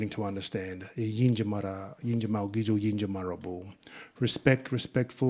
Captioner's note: speaking in Ngunnawal